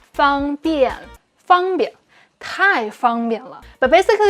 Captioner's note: speaking in Mandarin